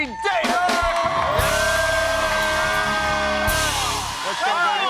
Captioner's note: cheers and applause